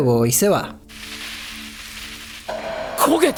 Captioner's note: fried egg sound